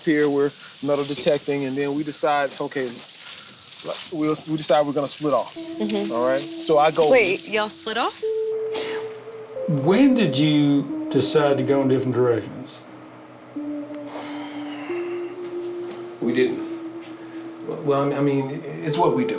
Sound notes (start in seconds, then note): 13.0 mysterious music; 14.0 Dwight sighs